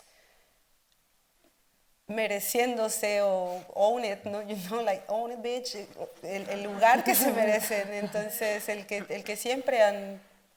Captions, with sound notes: own it, no? You know, like own it bitch (speaks Spanish) (audience laughing)